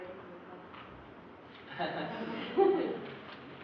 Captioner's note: laughter